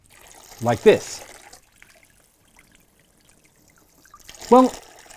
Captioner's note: sounds of running water can be heard